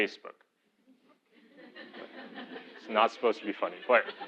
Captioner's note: laugh